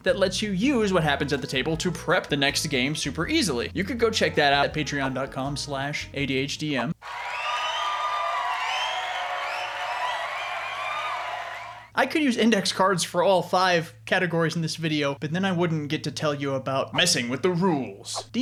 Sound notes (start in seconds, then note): 7.0 crowd cheering